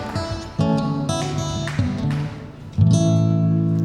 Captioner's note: cheers and applause